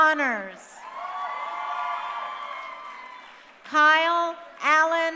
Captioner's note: crowd cheering